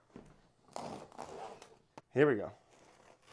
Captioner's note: slicing sound